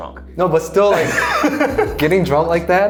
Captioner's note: laughing